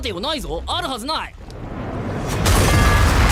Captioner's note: air rushing